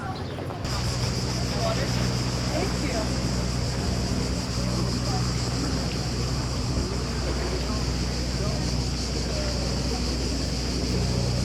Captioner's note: "Singing" Cicadas